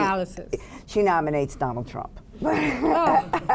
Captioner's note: laughs